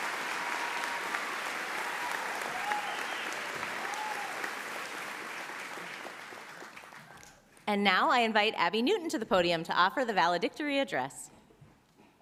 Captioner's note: applause